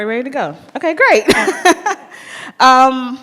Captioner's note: chuckles